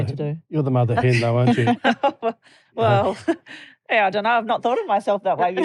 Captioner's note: laughter; laughter